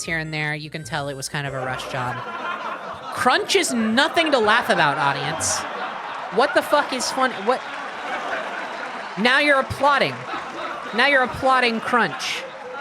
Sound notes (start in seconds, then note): 1.9 sitcom laughter; 2.5 laughter continues; 7.6 laughter continues, applause increases